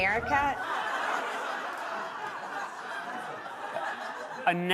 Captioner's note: laughter and applause